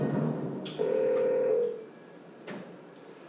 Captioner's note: phone ringing